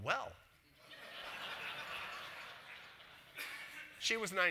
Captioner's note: audience laughs